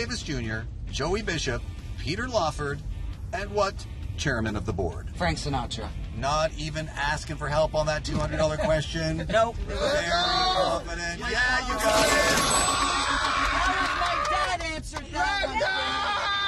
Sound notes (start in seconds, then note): 11.8 cheering & applauding